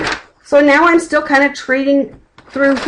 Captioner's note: flipping pages